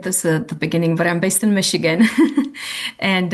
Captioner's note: chuckles